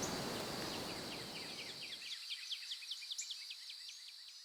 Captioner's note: birds chirping